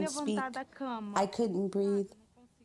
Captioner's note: through translator